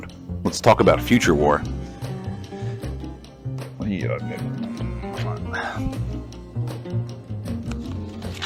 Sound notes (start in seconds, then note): 5.7 kissing